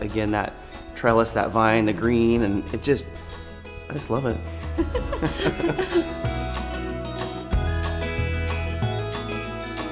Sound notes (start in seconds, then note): 4.6 both laugh; 6.2 upbeat music continues